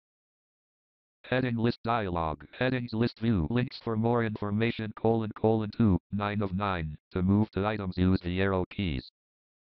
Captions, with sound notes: [JAWS Screen Reader Voice] Headings List Dialogue. Headings List View. Links for more information: 2 9 of 9. To move to items use the arrow keys.